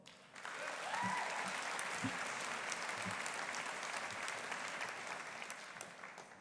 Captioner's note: audience applauding; audience cheering